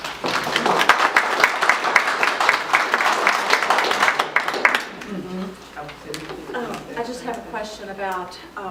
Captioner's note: applause